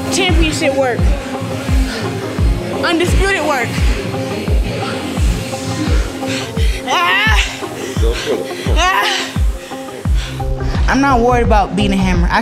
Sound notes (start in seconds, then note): 6.9 grunting